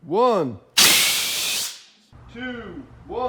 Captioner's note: blasting